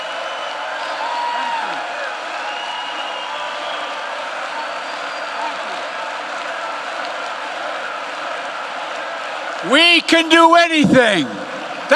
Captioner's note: applause